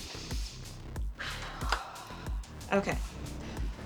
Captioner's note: Sarah exhaling